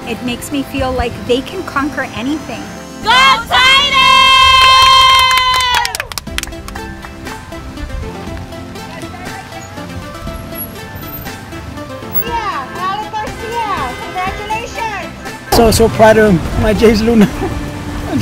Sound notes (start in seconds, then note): 4.4 girls clapping; 6.6 upbeat electronic music